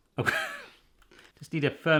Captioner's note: laughing